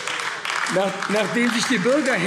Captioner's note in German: Beifall AfD